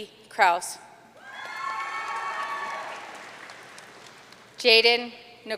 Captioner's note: audience cheering and applauding